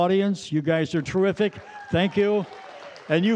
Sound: audience cheering

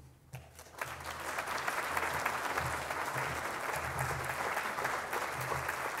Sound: audience applauding

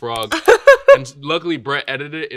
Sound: Elle laughing

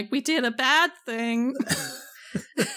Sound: laughs

